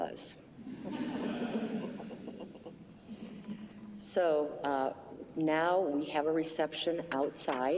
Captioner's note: laughter